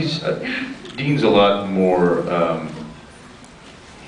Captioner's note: laughs